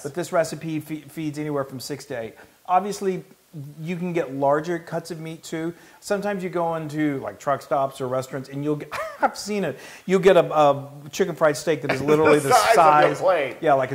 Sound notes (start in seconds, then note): 8.8 laugh; 11.9 laugh